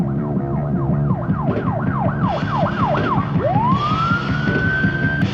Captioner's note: upbeat rock music; siren wailing